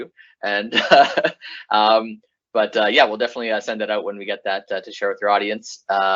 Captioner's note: laughs